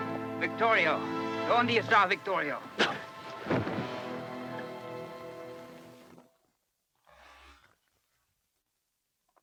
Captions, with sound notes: - Victorio, (speaks Spanish) Victorio.